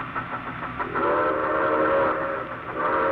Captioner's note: train whistle